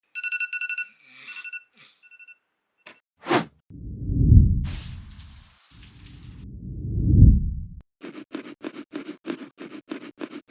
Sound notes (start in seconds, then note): 0.1 alarm ringing